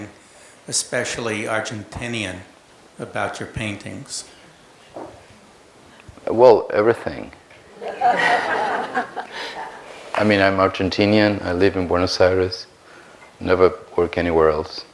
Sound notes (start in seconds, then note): 7.6 laughs